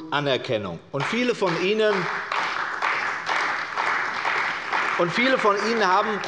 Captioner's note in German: Beifall bei der CDU und dem BÜNDNIS 90/DIE GRÜNEN